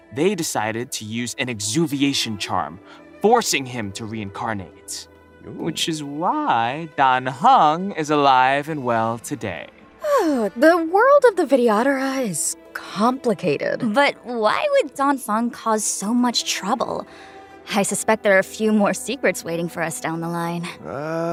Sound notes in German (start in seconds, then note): 10.0 seufz